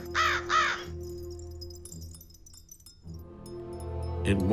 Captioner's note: crow cawing